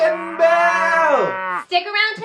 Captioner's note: cow mooing